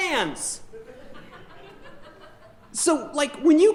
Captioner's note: audience chuckling